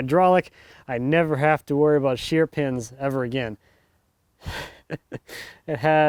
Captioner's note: laughs